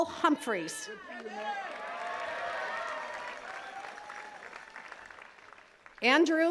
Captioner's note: attendees cheering and clapping